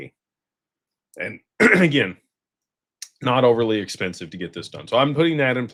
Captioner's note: clears throat